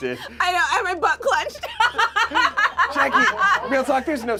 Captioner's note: laughs